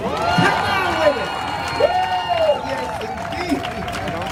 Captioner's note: crowd cheering